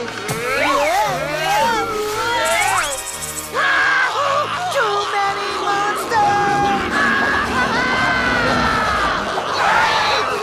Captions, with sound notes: Whoa, whoa, whoa! [screaming] Too many monsters! [screaming]